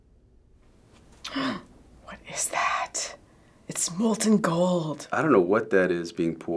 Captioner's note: gasps